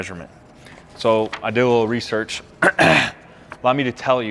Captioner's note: clears throat